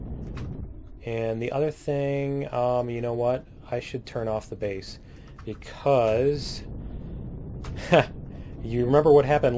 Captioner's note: laughs